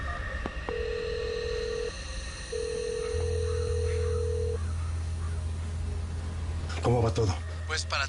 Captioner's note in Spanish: La otra línea timbra